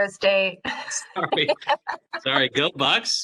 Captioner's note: laughing